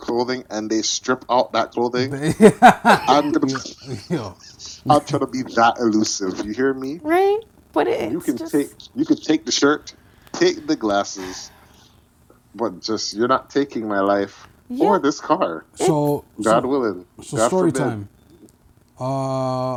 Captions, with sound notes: clothing and they strip out that clothing? (laughing) I'm trying to be that elusive, you hear me? - Right, but it is just. - You could take the shirt, take the glasses, but just you're not taking my life for this car. So God willing, God forbid. - So story time.